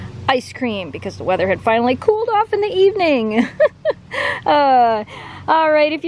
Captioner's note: laughter